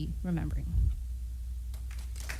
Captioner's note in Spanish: aplausos